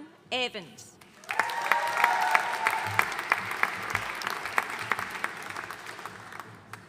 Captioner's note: audience cheering and applauding